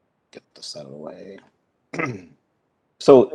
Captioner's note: clears throat